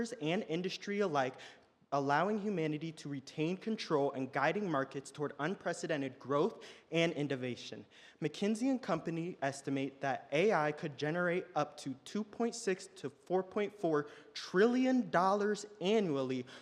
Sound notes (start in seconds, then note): none